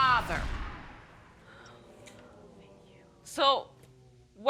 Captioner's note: whispering